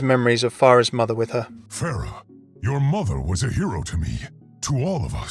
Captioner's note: voiceover